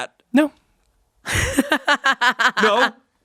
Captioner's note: laughs